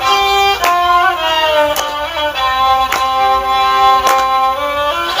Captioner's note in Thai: ปรบมือ